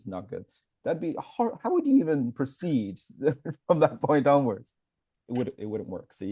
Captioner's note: laughs